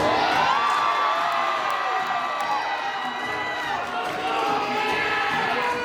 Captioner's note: applause